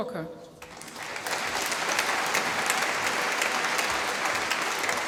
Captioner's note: applause